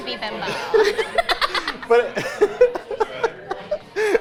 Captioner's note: both laughing